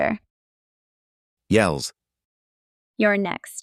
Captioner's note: yells